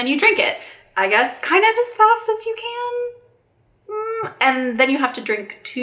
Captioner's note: moaning